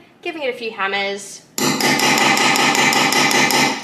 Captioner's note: banging sounds from the hammer